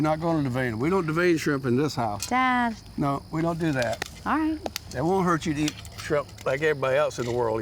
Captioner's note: none